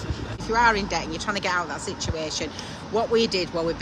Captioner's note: none